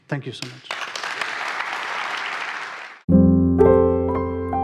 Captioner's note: audience applauding